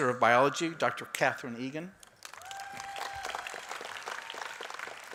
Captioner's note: applause